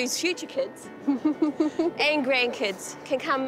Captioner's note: laughs